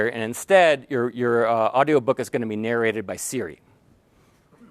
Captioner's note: laugh